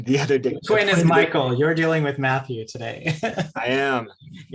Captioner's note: laughs; laughs